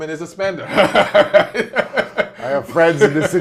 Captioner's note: laughs